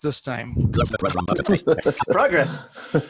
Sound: laughing

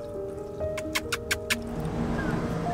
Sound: kissing sounds

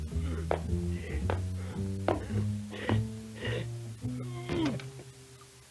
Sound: grunting, panting

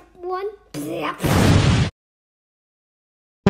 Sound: boom!!

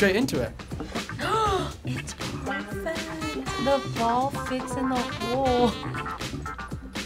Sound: gasps

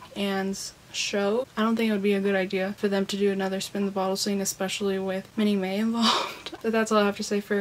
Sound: laughs

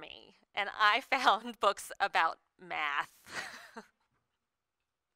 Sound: laughs

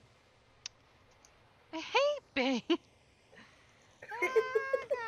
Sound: chuckles

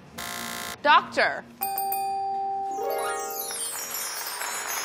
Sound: buzzer sound; bell sound; clapping

